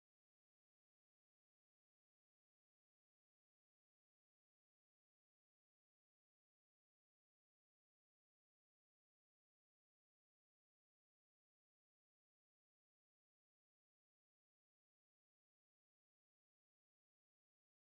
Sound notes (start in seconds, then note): none